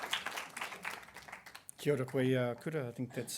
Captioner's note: applause